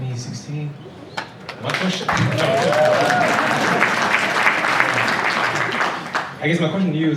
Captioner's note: applause